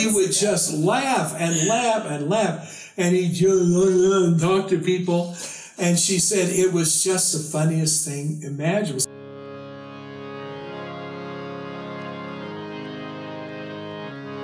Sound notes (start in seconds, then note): 3.7 slurring talk